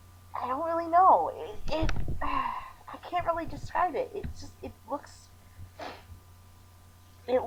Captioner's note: sighs; smol sniffle